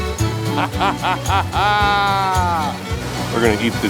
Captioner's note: laughing